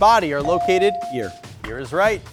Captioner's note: buzzer chimes